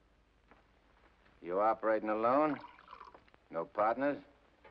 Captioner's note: liquid pours